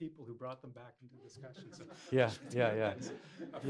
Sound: laughter

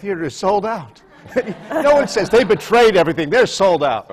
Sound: laughter

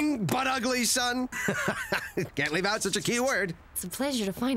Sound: laughing

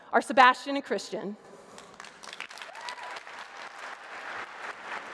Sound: applause

